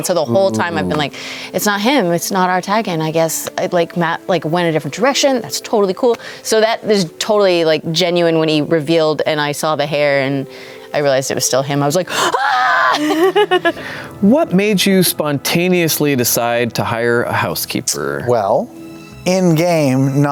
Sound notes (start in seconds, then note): 12.1 laughs